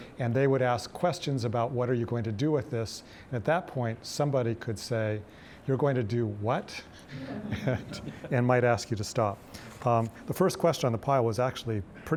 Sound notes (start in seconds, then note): 7.2 audience laughing